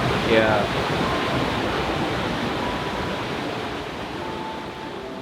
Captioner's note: water gushing; gentle music